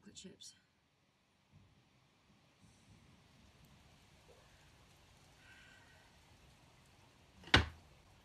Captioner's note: nyx takes deep shuddering breaths; cupboard door slams shut